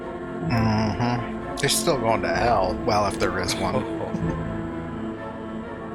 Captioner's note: chuckling